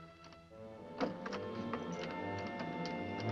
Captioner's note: door locking; ominous music